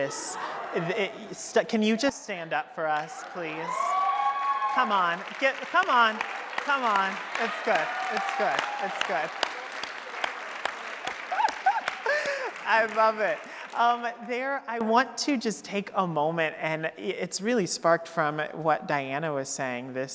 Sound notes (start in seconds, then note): 9.9 audience applauding